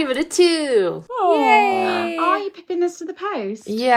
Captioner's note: cheers